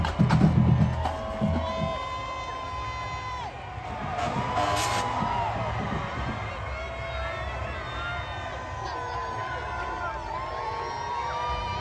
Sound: drums Banging; cheers and Crowd Noise

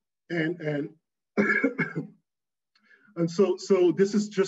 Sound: coughing

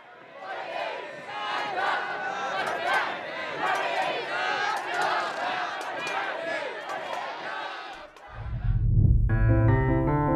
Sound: people chanting

